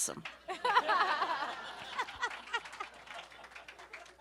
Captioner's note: everyone laughs; audience applauds